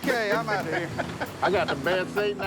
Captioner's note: laughs